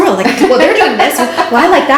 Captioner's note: laughing